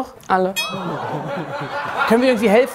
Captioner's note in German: Lachen